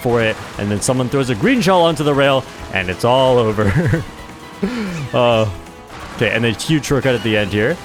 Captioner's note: laughs